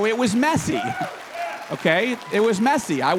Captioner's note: applause